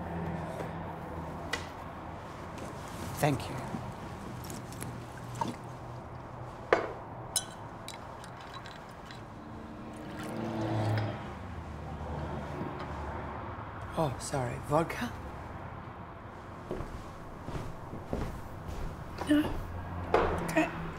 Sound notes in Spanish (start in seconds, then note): 7.3 suena la copa; 9.8 Vertiendo liquido